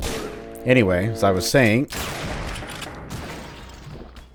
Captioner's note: bam